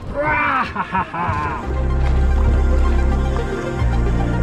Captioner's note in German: kichert